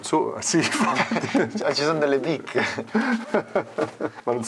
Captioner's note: laughs